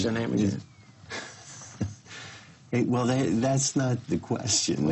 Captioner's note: laughs